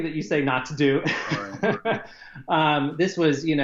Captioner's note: laughing